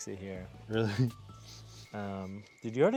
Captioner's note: sniffing